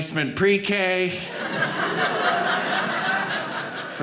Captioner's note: audience laughing